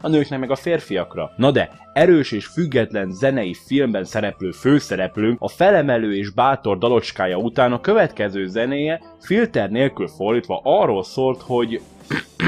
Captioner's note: clears throat